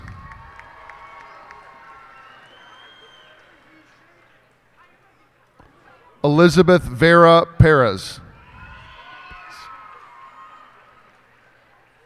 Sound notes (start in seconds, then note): 0.0 cheers and applause; 8.3 cheers and applause